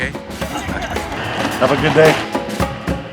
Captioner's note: laughing